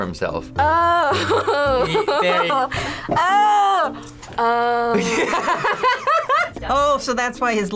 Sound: laughs

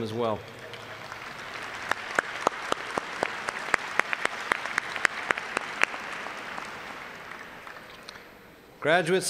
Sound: applause

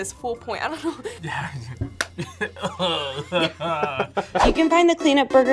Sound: both laugh

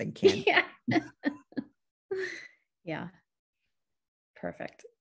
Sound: laughs

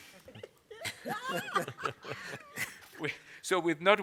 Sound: laughter

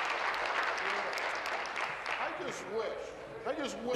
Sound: applause

